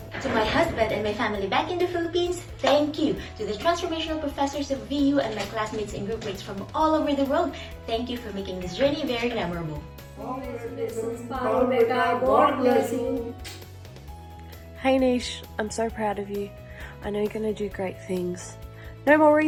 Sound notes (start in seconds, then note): 10.4 speaking foreign language; 13.6 smacking lips